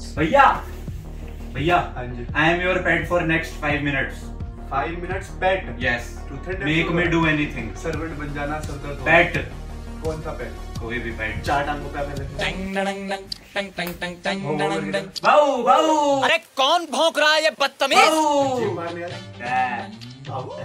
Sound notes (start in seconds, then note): 17.9 keeps on barking